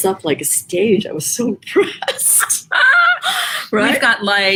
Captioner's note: both laugh